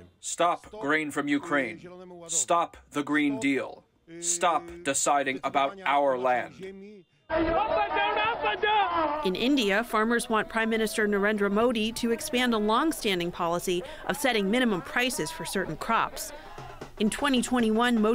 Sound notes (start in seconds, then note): 0.6 through translator; 9.5 voice-over